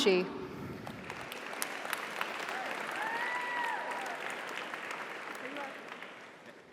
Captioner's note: audience applauds; audience cheers